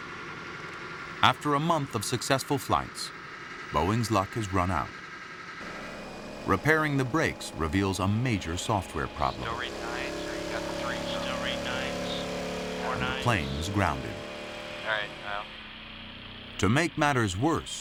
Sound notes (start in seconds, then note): 8.9 vibrating loudly